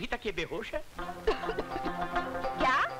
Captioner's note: Coughs